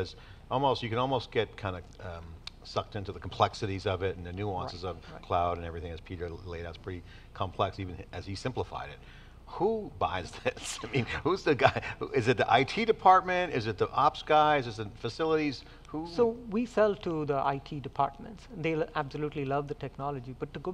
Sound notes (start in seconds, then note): 10.2 laughs